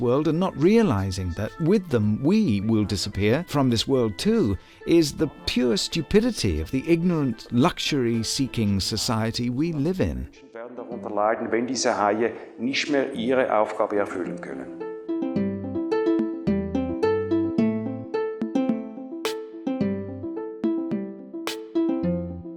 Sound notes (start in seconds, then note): 9.0 foreign Language